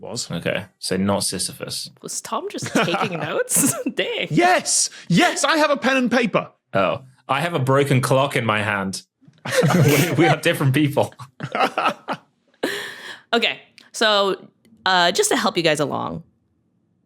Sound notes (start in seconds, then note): 9.4 group giggling